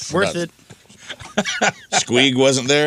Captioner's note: laughs